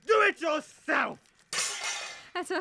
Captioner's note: oscar drops scrap metal